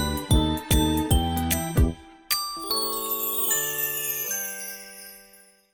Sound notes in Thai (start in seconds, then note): 4.0 เสียงกระดิ่ง